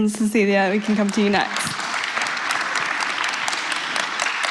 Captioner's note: applause